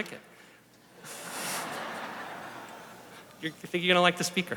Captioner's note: laughter